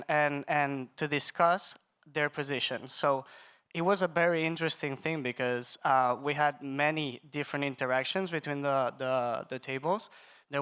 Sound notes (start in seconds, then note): none